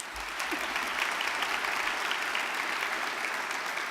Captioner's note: audience clapping